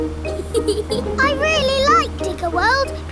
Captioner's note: george chuckling